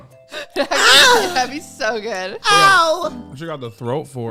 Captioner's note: laughs; moaning